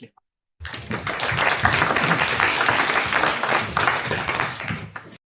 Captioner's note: audience applauding